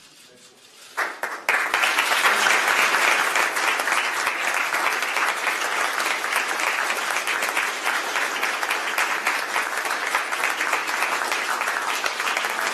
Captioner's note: applause